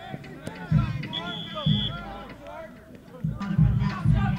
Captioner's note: whistle blowing